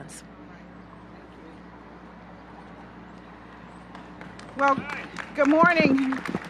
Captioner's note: applause